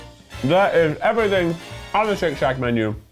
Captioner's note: none